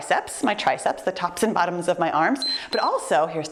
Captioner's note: timer beeps